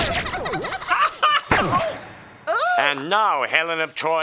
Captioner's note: laughs